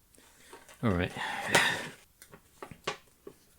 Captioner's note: sigh